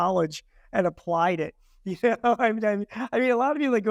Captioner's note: chuckling